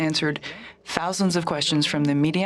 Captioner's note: speaking French